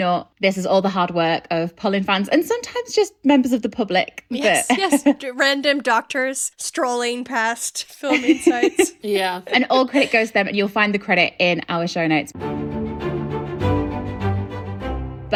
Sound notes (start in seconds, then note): 4.0 laughing; 12.3 upbeat music